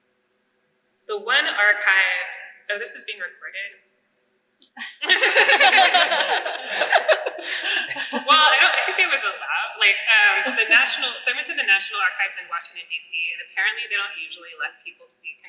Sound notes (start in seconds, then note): 4.8 laughter